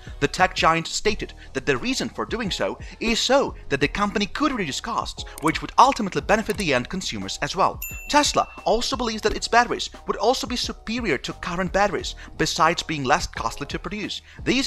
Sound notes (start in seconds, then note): 5.3 mouse clicking; 7.8 bell ringing